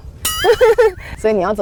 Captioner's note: helpless laughter